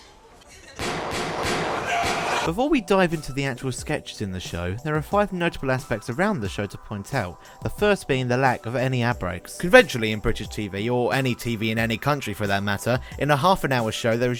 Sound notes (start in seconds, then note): 0.8 repeated gunshots